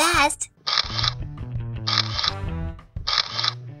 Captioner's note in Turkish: Fotoğraf çekme sesleri